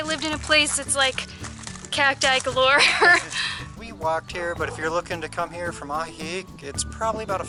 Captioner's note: laughter